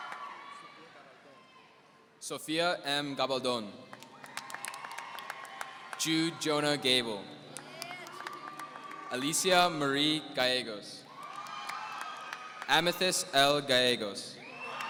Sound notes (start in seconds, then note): 3.9 applause; 11.1 audience cheering; 14.4 audience cheering